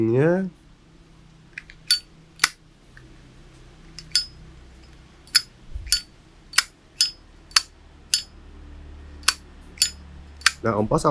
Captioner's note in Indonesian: Zippo Cling/Click